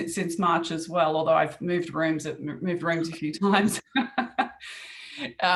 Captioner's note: laughs